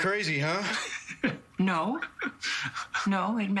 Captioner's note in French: laughs